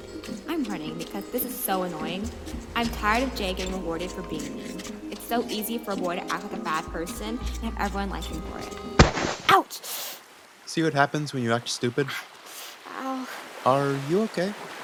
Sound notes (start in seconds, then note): 9.0 loud falling sound